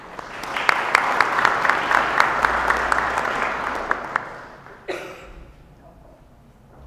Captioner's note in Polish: oklaski